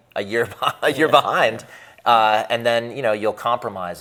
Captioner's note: laughs